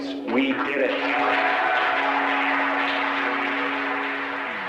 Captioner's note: group applauding